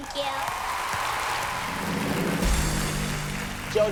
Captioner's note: cheering